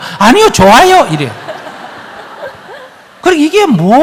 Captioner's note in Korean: 청중 웃음